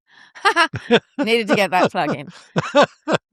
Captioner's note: laughs